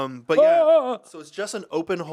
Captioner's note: Ian exclaiming